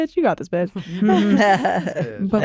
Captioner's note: laughter